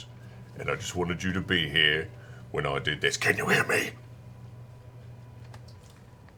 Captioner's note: whispers